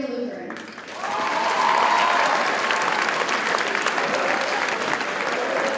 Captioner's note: audience cheers and applauds